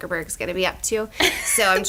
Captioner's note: laughs